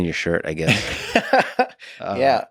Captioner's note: Tim laughs